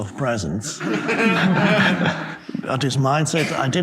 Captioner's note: audience laughing